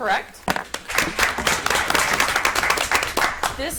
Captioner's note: audience applauds